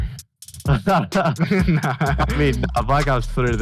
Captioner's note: both laugh